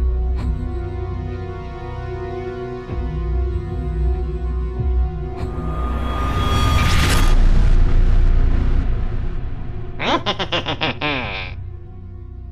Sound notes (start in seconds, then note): 5.3 very spooky zoom in noise; 10.0 very spooky laugh; 12.1 very spooky music